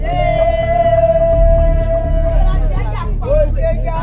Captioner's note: women chanting